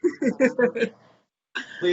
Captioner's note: chuckles